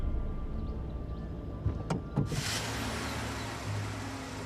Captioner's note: car hums